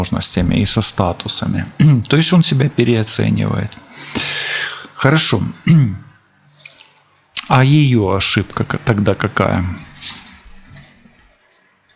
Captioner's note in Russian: откашливается